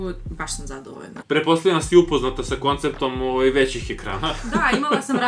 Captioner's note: laughs